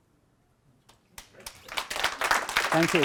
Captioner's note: applause